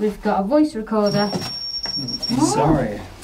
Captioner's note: loud beeping